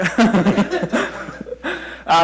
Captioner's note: laughter